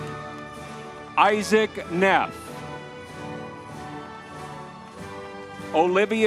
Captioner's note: crowd cheering